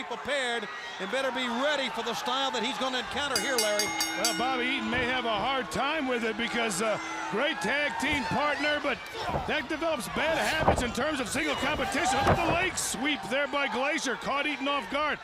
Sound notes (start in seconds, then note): 5.5 bell ringing